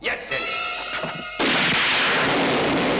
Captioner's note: gun fires; dramatic suspense music